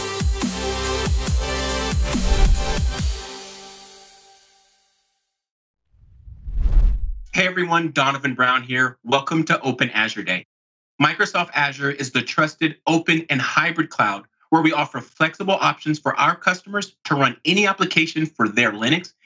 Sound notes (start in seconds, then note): 6.0 whooshing